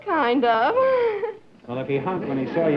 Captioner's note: laughter